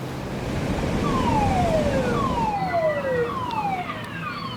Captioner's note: waves crashing; siren wailing